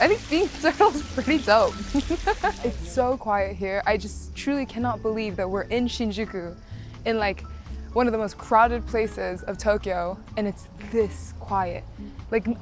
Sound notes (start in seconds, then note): 1.8 laughs